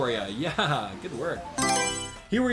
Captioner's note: Mario Selection Sound